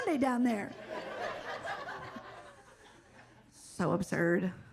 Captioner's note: audience laughs